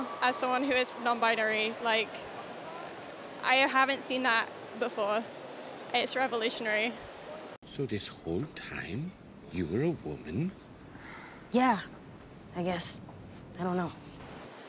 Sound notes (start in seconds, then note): 10.9 sighs